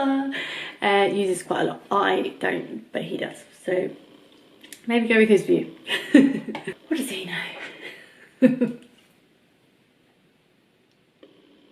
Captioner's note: laughs